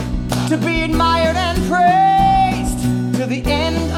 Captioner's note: claps